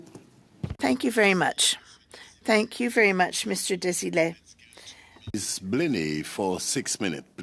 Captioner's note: speaking French